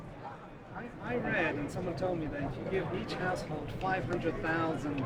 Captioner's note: voiceover